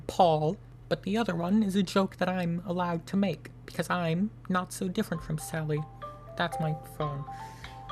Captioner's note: phone ringing